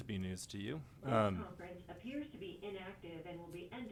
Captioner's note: electronic Voice